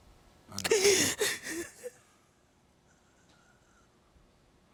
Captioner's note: gasps and weeps